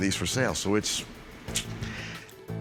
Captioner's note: clicks tongue